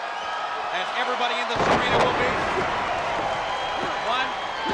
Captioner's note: body thudding